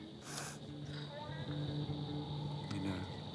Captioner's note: sniffles